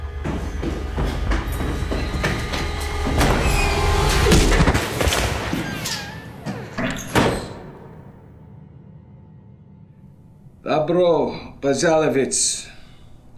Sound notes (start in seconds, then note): 0.0 dramatic music; 3.7 thudding; 10.8 speaking foreign language